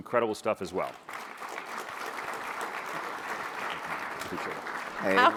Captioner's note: audience clapping